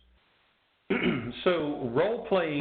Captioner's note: clears throat